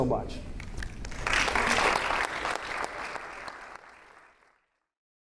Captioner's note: audience applauding